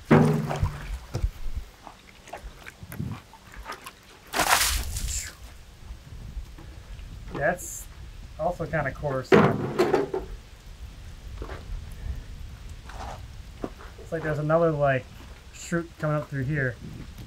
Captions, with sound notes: (water drum banging) (water sloshing) That's also kind of cortisone. It's like there's another like shoot coming up through here.